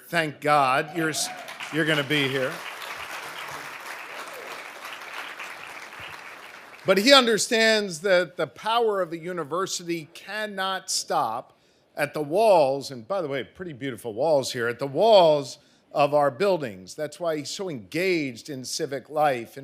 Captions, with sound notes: Thank God you're gonna be here. (audience applauding) But he understands that the power of the university cannot stop at the walls and by the way, pretty beautiful walls here, at the walls of our buildings. That's why he's so engaged in civic life